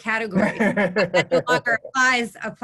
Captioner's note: laughing